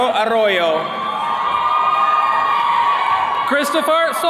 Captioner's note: attendees cheering